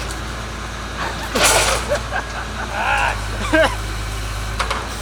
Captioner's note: laughing